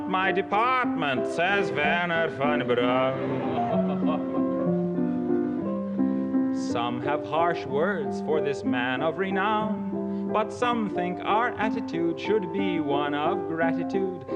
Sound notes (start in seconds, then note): 3.2 audience laughs; 6.5 in regular accent